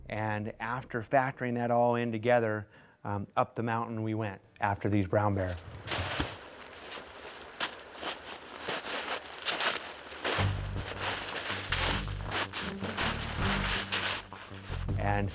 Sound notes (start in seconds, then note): 6.8 crunching snow